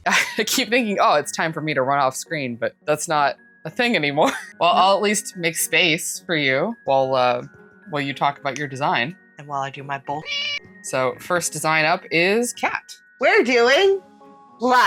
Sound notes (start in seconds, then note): 10.2 meow